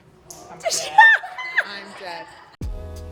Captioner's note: laughs loudly; upbeat music